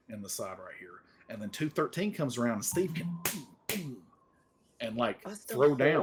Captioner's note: slams fists